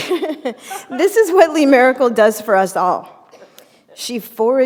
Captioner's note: chuckle